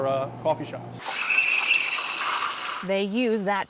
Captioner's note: sound of Espresso machine